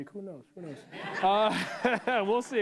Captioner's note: laughter